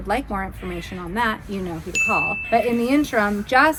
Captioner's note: bell dings